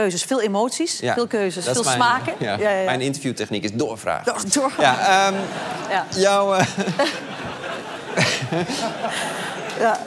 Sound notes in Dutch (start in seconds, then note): 5.0 gelach; 9.4 applaus